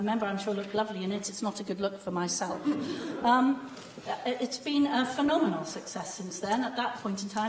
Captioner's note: laughter